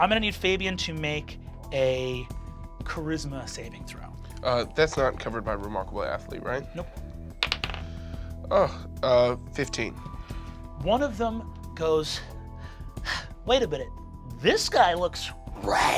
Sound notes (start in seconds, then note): 7.4 die clatters